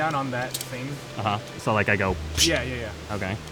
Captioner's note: pssht